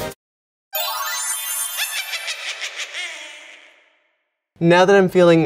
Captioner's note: witch cackling